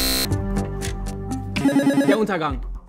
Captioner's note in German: Buzzer